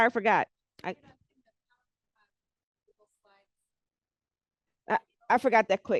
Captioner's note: breaking voice